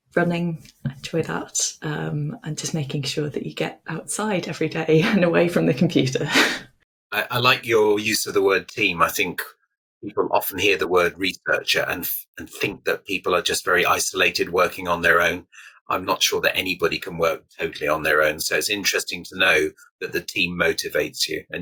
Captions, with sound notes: running, I enjoy that, and just making sure that you get outside every day and away from the computer. (laughs) - I like your use of the word team. I think people often hear the word researcher and think that people are just very isolated, working on their own. I'm not sure that anybody can work totally on their own. So it's interesting to know that the team motivates you